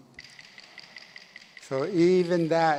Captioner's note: clap sticks rattle